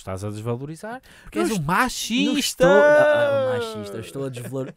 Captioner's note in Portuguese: ironia